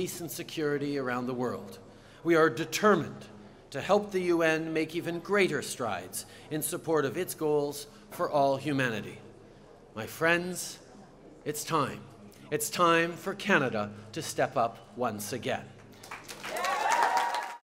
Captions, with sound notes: and security around the world. We are determined to help the UN make even greater strides in support of its goals for all humanity. My friends, it’s time. It’s time for Canada to step up once again. (Cheers and applause)